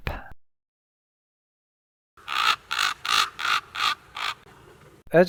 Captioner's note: raven cawing